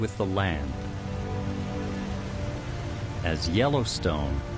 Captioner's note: water pouring over the Lower Falls